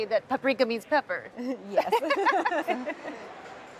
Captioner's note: laughs